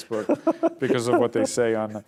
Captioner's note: laughs